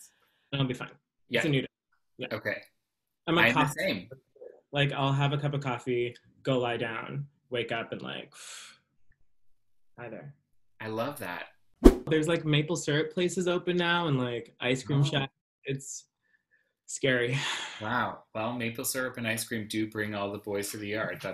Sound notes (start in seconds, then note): 11.8 whoosh